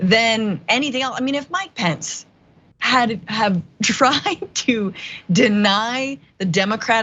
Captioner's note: laugh